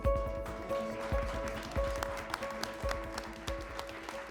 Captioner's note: applause